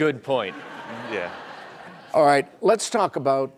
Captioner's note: laughing